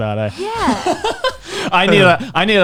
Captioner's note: laughs